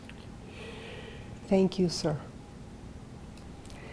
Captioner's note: sighing